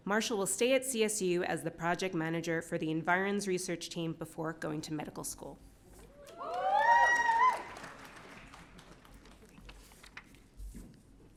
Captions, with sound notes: Marshall will stay at CSU as the project manager for the Environs Research Team before going to medical school. (audience cheering)